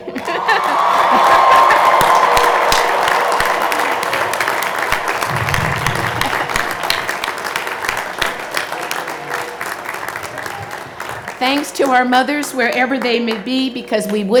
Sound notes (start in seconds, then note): 0.0 cheers and Applause